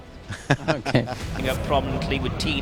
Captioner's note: laughing